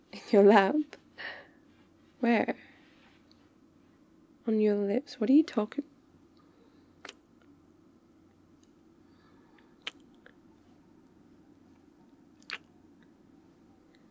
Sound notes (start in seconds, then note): 9.8 kiss; 12.4 kiss